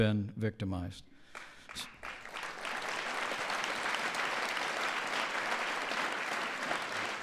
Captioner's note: applause